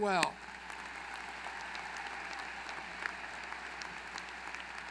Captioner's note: applause